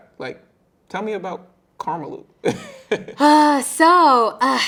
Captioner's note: chuckling